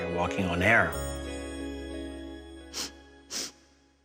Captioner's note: sniffing